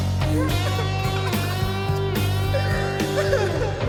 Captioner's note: sobbing